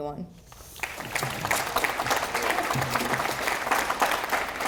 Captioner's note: audience applauding